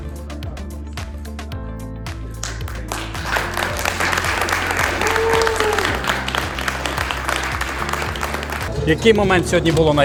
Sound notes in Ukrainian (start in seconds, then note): 2.3 оплески